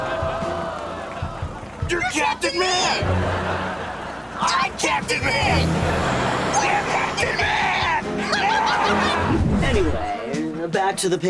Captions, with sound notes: You're Captain Man! I'm Captain Man! We're Captain Man! [laughing] Anyway, back to the painting.